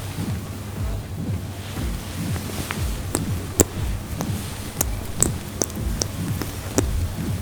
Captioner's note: water splashing